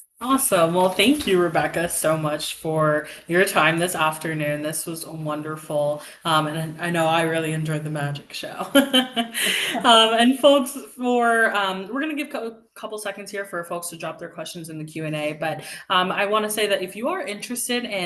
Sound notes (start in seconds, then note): 8.8 laughs